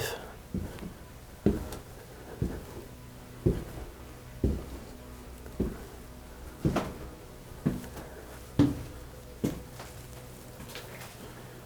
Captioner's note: footsteps tapping down the stairs